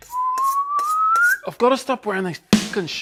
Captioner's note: whistles